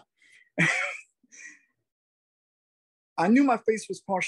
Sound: laughs

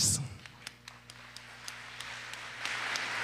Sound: applause

